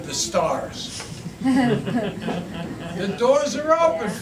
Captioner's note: interviewer laughs